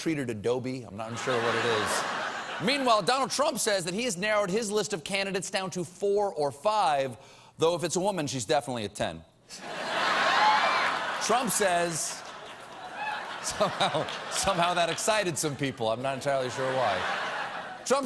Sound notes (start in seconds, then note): 6.9 cheers and applause; 16.2 laughter